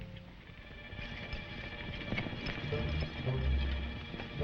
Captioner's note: chariot rattling